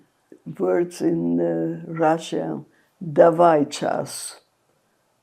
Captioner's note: russian